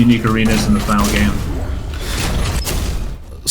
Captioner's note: explosive game effects